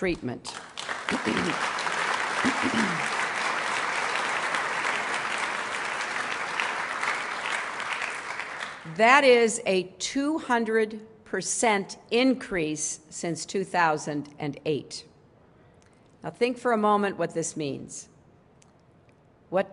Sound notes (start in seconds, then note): 4.7 applause